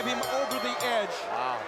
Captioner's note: bell ringing